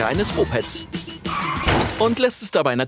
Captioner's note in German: Krachen